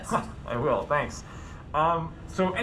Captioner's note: polite chuckle